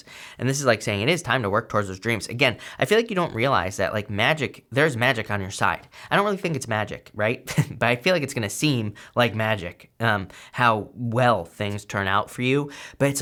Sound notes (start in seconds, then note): 7.5 chuckles